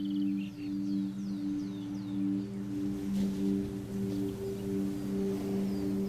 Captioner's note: birds chirping